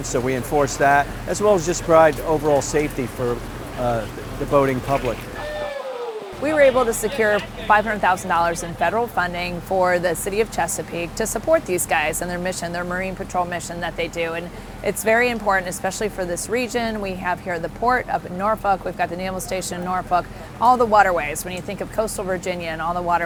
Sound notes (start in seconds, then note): 4.8 applause